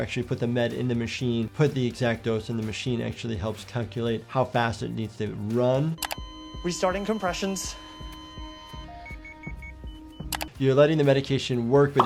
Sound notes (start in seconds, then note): 6.0 machine flatlines; 9.5 machine beeps